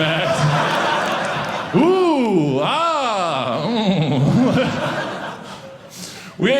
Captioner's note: audience laughing